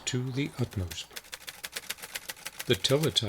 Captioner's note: keys clanking